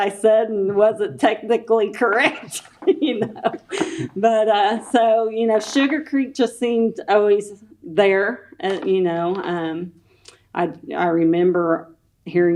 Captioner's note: laughs